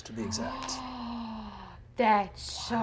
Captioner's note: gasping